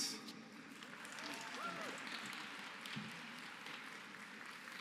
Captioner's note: applause